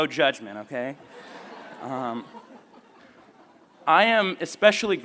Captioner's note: laughter